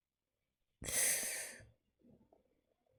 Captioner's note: sharp intake of breath